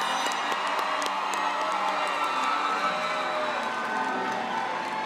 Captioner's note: applause